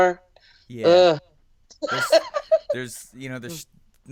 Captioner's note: groans and laughs